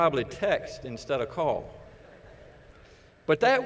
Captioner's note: laughter